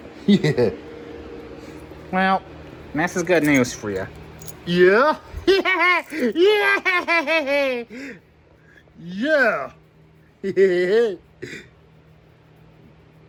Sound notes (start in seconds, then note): 0.2 laughs; 5.4 laughs and giggles